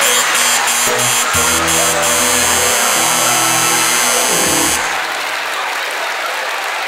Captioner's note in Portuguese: campainha e aplausos